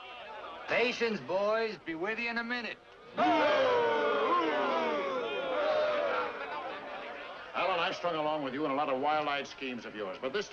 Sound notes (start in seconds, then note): 3.1 men boo & heckle